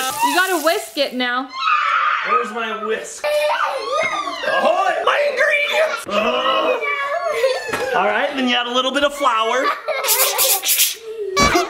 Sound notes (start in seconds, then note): 1.4 child screaming; 4.2 children exclaiming; 6.3 person grunting; 7.1 children laughing; 9.6 child laughing